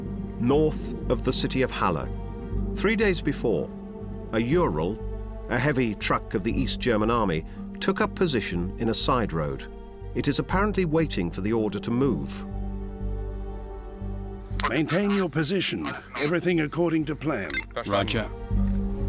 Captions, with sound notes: north of the city of Halle. Three days before, a Ural, a heavy truck of the East German Army, took up position in a side road. It is apparently waiting for the order to move. [man on radio] Maintain your position. Everything according to plan. Roger.